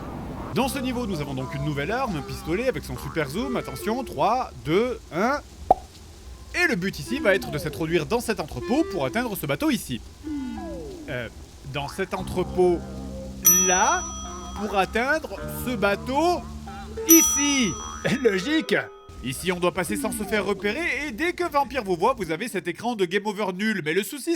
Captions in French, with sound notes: Dans ce niveau nous avons donc une nouvelle arme un pistolet avec son super zoom, attention, 3, 2, 1... *PLOP* et le but ici va être de s'introduire dans cet entrepôt pour atteindre ce bateau ici Euuh dans cet entrepôt LÀ pour atteindre ce bateau ICI ! LOGIQUE ! Ici on doit passer sans se faire repérer et dès qu'un vampire vous voit vous avez cet écran de game over nul mais le souci